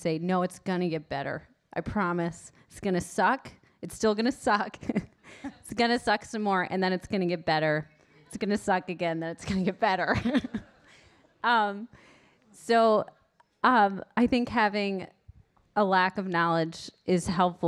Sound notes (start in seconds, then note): 10.1 laughs